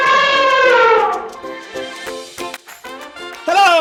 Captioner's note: bright music; elephant trumpeting